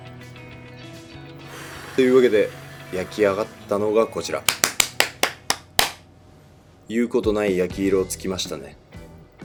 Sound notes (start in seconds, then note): 4.4 clapping